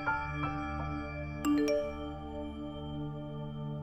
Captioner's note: Cell phone beeps